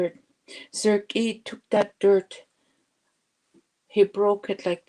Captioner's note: speaking Indigenous language